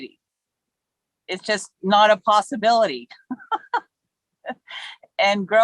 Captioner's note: laughs